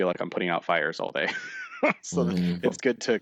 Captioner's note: laughter